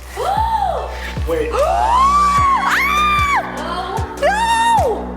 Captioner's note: screaming